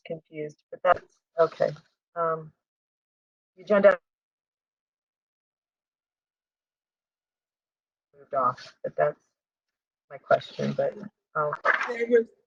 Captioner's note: audio glitch